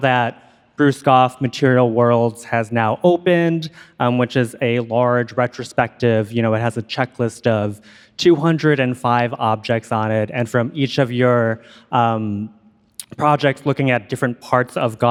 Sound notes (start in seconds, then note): none